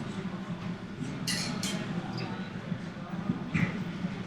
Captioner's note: none